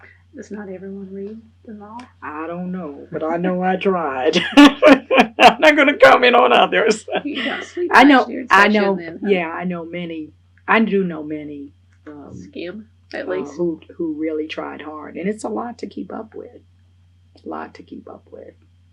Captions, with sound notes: Does not everyone read? I don’t know, but I know I tried. (Laughs) I’m not going to comment on others. I know many people who really try hard and it’s a lot to keep up with. A lot to keep up with.